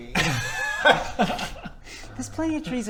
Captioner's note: delinquent laughter